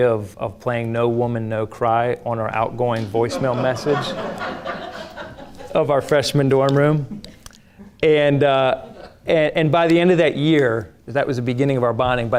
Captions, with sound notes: of playing No Woman No Cry on our outgoing voicemail message (audience laughing) of our freshman dorm room. And by the end of that year, that was the beginning of our bonding,